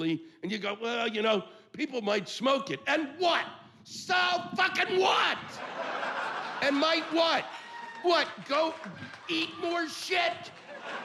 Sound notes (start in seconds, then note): 3.8 yelling